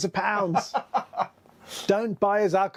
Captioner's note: guy laughs